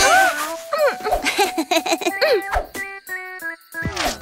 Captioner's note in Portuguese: Risos